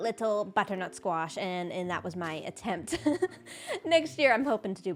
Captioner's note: laughs